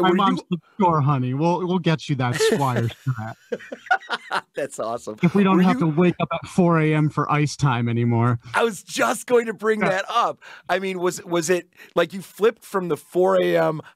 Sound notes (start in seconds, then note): 5.1 laughing